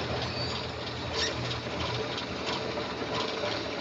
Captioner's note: car engine starts